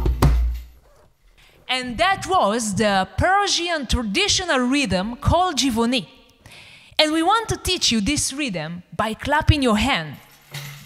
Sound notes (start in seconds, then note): 0.3 music stops; 5.5 speaks Farsi